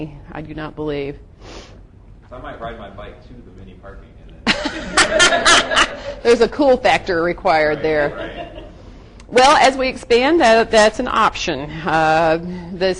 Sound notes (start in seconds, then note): 4.5 crowd laughs